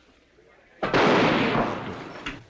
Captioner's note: gunshot